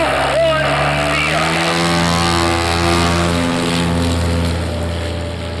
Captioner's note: engines revving